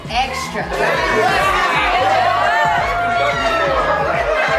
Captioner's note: guests cheering